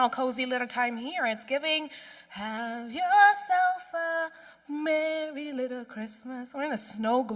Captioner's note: humming